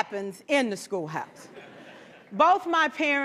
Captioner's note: laughter